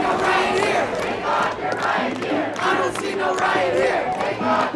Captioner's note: chanting